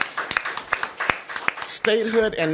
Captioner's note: applause